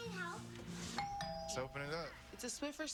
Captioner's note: doorbell ringing